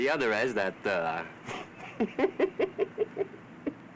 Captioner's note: chuckling